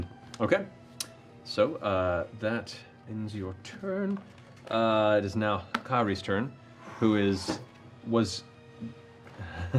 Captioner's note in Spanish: se ríe